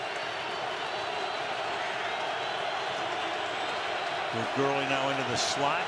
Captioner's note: crowd cheering